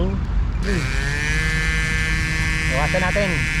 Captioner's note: pump starts